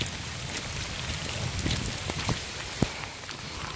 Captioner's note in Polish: szum ulewy